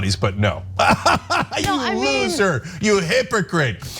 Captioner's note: laugh